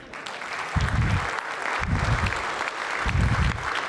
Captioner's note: applause